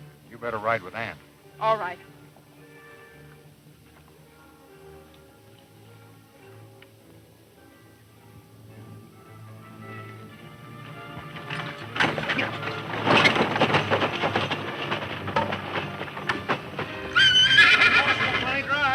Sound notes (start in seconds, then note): 13.5 wagon rattling; 17.4 horses neighing